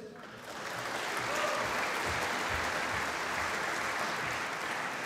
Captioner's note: applause